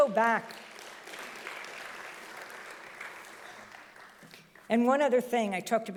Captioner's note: audience applauding loudly